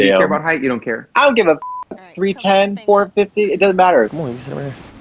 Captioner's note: beep